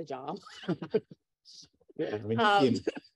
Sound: laughter

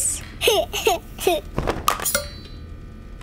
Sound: laughing

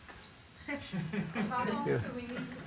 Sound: laughing in audience

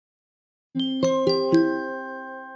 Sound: chime

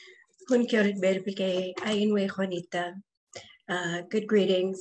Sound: speaking Yucatec

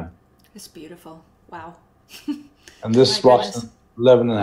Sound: chuckles

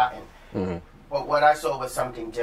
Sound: sounds of agreement

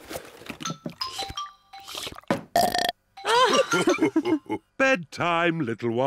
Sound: laughing; slurps and belches

